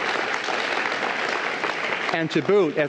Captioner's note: applause